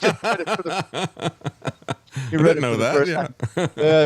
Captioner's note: laughing